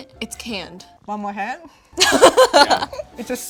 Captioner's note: laughs